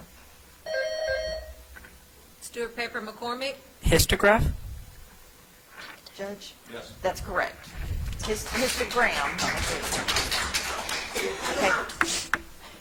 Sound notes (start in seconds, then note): 0.7 bell ringing; 8.2 audience applauds